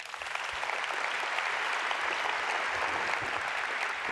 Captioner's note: audience applauds